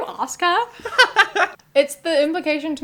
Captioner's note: laughter